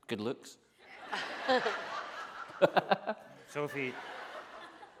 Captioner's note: laughing